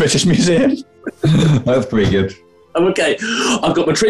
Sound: laughing; chuckling

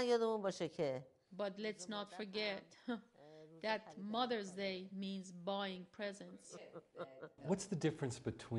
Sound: laugh

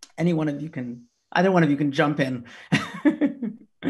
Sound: laughs

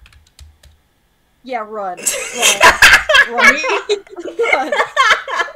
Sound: laughing

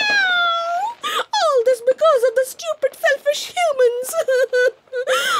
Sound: sobbing

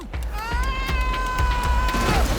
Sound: screams; grunts, groans

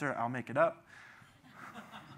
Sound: laughs

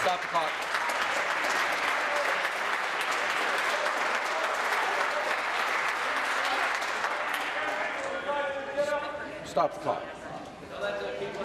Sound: applause

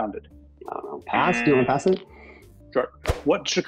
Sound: buzzer

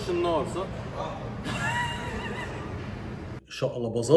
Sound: laughter

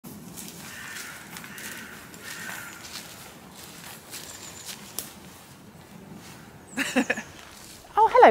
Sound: crunchy leaves & crows cawing; laughs

